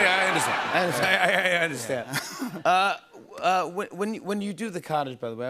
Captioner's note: chuckles